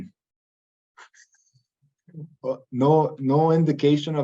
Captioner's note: chuckles